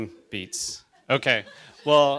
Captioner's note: audience chuckles